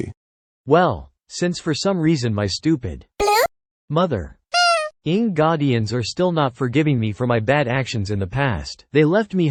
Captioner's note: beep